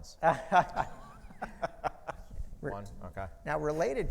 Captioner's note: laughing